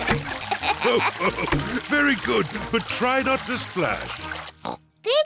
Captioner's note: laughs; oinks